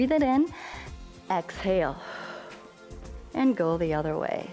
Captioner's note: exhales